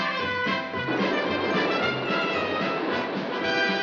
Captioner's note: chugging